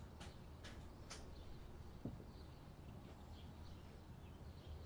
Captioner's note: birds chirping